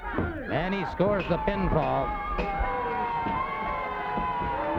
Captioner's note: hands thudding; bell ringing; crowd cheering